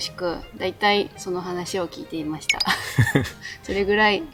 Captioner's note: laughs